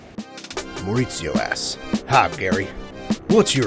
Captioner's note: voiceover